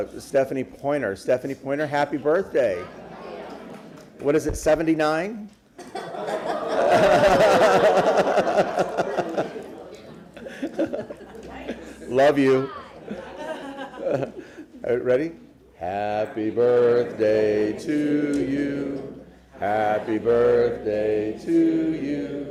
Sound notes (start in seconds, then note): 11.3 laughter